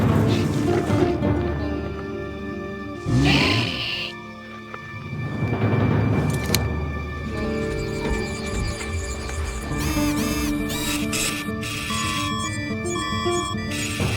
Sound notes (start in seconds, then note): 0.0 Raptor pants; 3.0 raptor groans; 9.8 robot whirs; 12.0 alarm tones